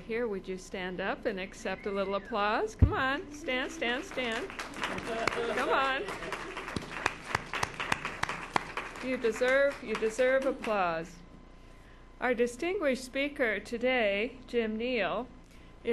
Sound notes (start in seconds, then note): 4.5 audience applauds